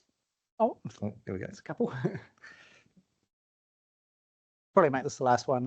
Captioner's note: chuckles